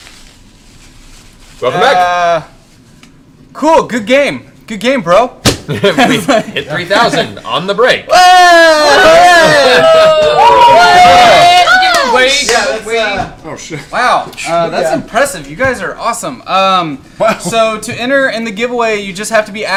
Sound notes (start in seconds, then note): 8.1 cheering